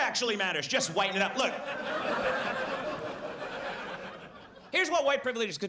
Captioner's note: audience laughs